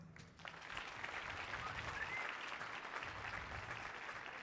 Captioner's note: audience applauding